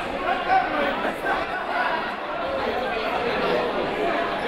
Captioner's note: crowd murmuring